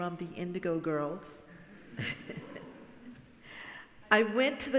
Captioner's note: laughing